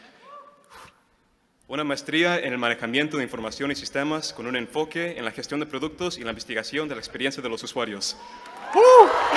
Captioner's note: speaking spanish